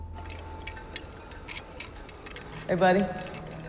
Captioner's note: crackling